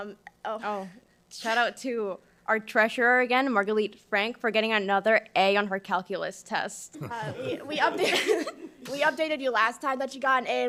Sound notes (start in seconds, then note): 7.0 all laughing